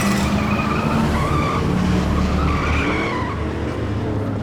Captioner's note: tires squealing